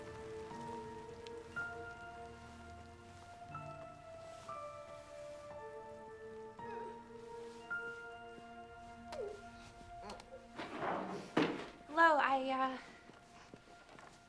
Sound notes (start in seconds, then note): 6.9 woman sobs; 9.9 crying